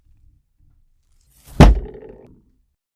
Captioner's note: thonk